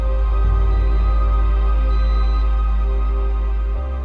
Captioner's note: monitor beeping